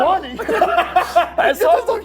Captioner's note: laughs